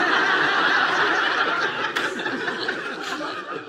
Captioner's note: audience laughs